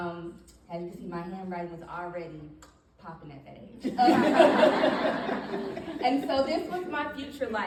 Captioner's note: audience laughing